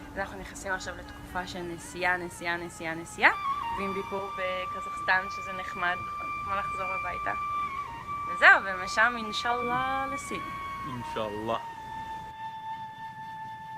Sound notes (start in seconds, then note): 10.3 in Arabic